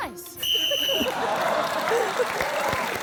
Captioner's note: blows whistle